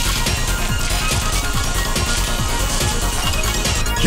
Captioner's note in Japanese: 紙が次々と吹き飛ぶ音